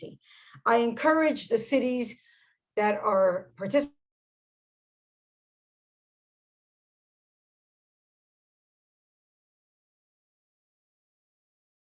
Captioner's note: audio cuts out